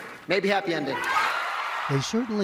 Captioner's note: cheering